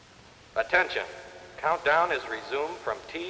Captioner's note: man on PA